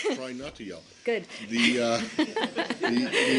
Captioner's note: laughter